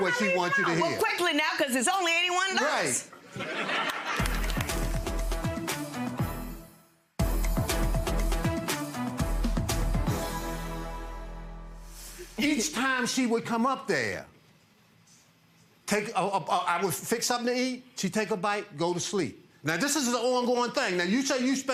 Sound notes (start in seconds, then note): 3.2 audience laughs; 5.1 strong music